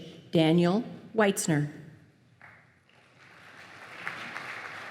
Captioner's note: applause